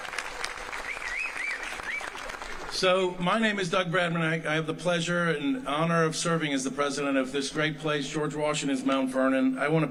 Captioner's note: applae